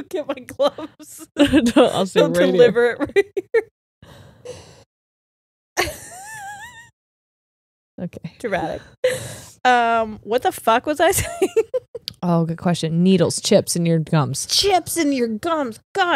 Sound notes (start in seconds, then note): 5.8 laughs; 11.1 giggles